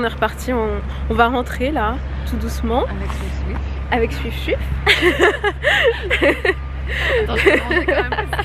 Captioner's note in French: rires